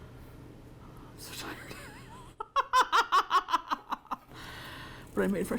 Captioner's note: laughs